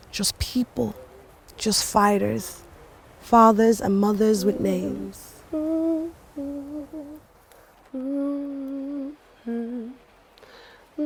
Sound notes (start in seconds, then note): 5.9 soft humming